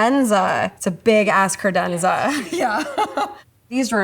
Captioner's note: laughs